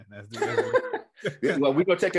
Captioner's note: laughing